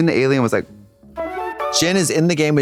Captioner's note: bright chime